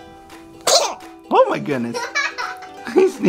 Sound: sneezes

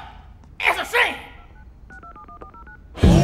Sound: dialing; hip-hop music plays

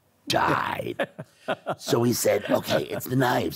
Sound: laughing

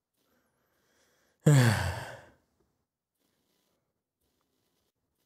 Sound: sighs

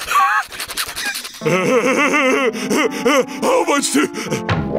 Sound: laughing

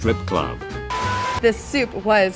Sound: beeping

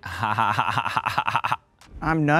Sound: fake laughing

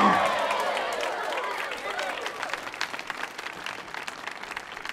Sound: audience applauding

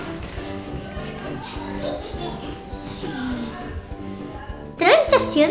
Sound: laughs

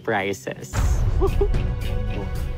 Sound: kyle chuckles

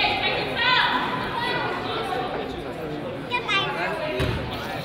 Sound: crowd chatters and laughs

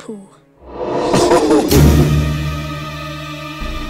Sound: demonic Laughter

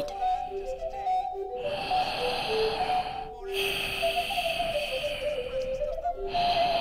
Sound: heavy Breathing

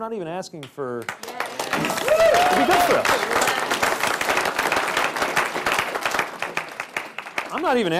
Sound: applause, cheering

